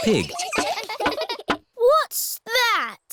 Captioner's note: all giggling